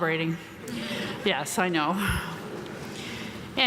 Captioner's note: audience laughing